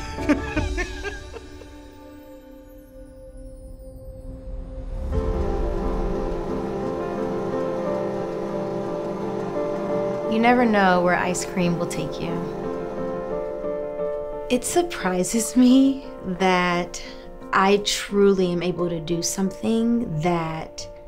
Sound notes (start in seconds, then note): 0.0 laughs; 5.0 machine whirring